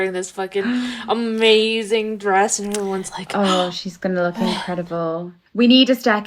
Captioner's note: gasp